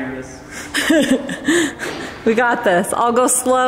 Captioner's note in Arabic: يضحك